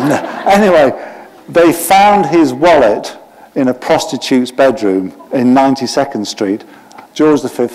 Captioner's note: laughter